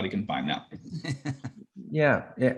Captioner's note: chuckles